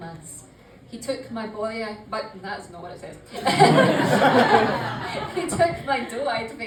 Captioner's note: laughter